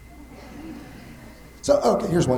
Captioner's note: attendees chuckling